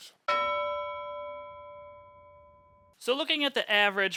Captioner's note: bell dings